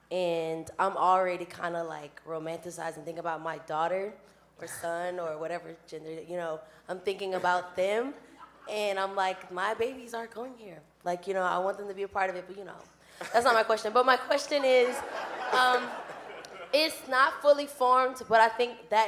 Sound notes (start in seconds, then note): 14.4 audience laughing